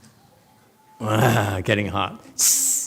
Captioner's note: laughs